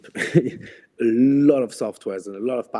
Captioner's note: laughs